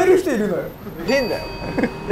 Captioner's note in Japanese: 効果音 チーン